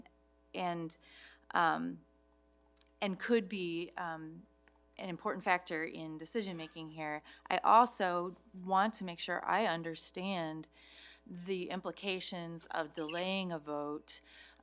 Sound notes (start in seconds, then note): none